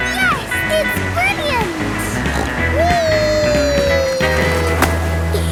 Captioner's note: snorts; giggle